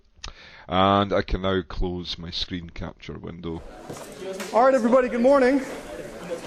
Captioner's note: plays audiorecording